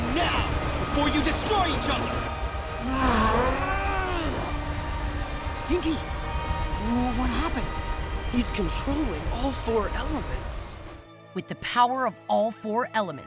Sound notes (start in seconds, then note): 2.7 groaning